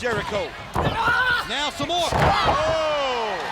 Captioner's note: wrestlers grunting; body thudding